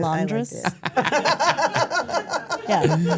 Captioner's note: everyone laughs